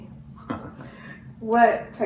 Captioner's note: laughter